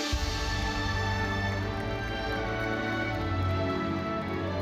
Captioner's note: audience applauding; bright lively music continues